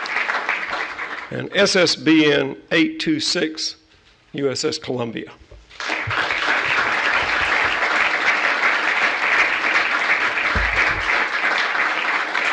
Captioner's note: applause